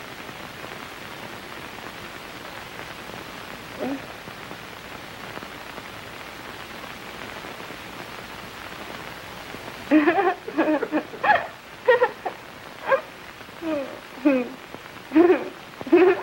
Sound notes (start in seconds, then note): 3.8 moans; 9.9 giggling